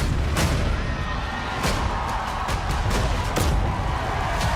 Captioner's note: dramatic music; audience cheers